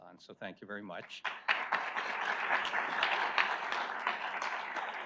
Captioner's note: audience applauds